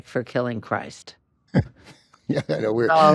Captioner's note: chuckles